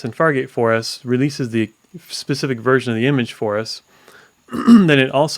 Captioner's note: coughs